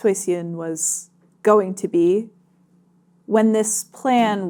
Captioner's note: none